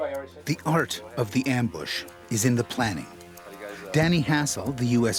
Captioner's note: voiceover